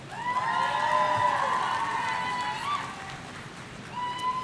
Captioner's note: audience cheering